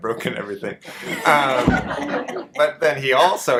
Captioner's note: audience laughter